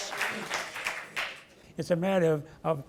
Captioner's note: audience applause